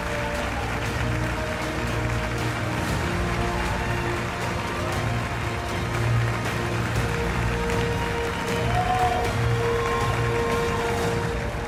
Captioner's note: cheers and applause